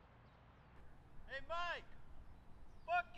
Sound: shouting

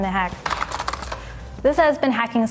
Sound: keyboard clicking

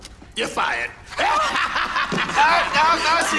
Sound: laughs

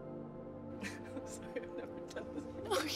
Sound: laughs genuinely

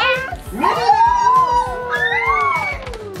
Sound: squeals

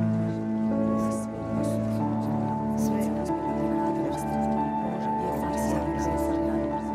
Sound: women speaking faintly in foreign language

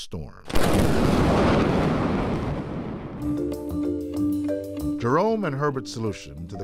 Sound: booming thunder

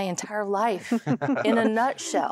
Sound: giggling

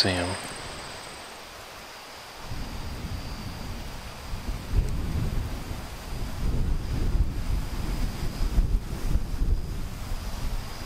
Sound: wind blowing

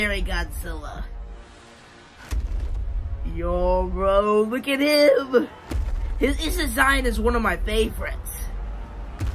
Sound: Godzilla Minus One stomping

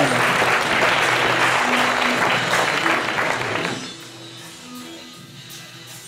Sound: audience applauding

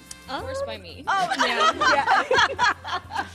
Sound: laughter

